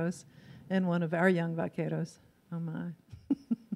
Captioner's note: laughs